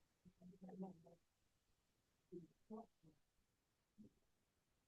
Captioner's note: faintly speaking